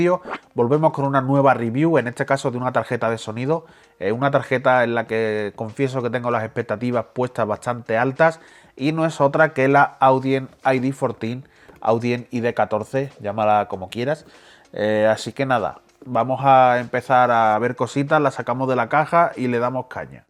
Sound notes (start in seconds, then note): 11.3 Spanish